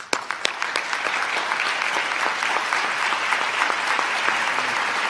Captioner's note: applause